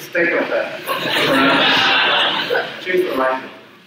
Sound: audience laughs

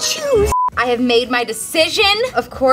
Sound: beep

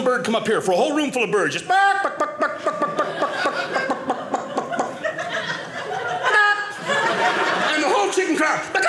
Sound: bird squaking

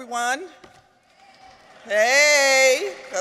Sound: audience applauds

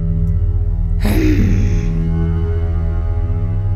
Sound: rage

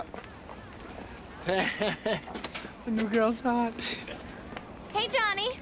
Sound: chuckling

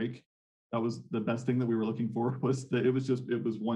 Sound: chuckles

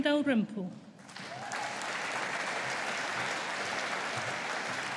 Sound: audience applauding

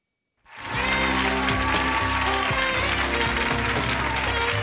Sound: audience applauds

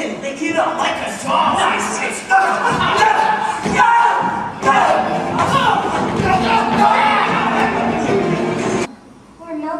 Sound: scuffling, yelling, sounds of violence

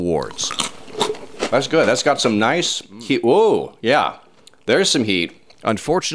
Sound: chips crunching

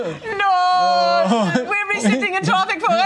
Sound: imitating German accent

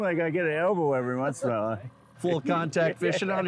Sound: laughs

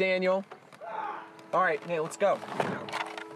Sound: screams

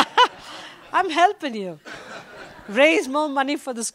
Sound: laughter

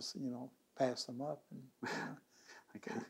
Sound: laughs

